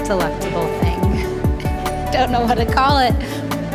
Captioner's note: laughs